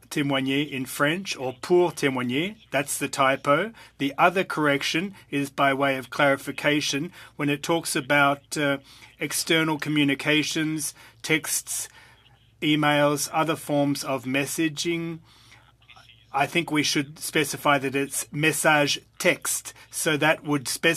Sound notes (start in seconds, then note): 4.9 speaking French